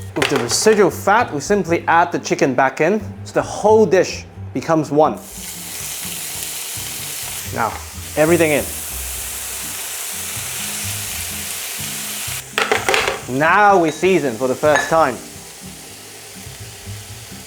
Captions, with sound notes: With the residual fat, we simply add the chicken back in. So the whole dish becomes one. Now, everything in. [sizzling sound] Now we season for the first time.